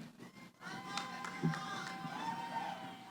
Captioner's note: cheering